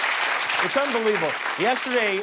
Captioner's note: cheers and applause